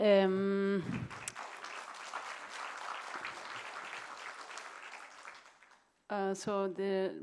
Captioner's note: applause